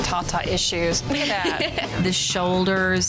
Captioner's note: laughing